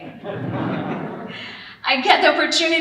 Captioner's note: audience laughing